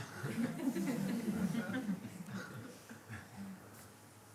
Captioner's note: laughter